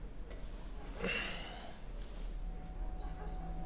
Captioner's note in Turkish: Nefes sesi